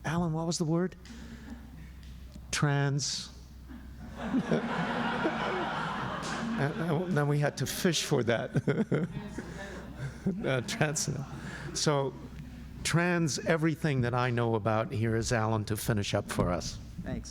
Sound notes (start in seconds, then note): 3.7 laughter